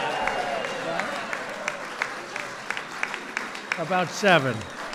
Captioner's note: applause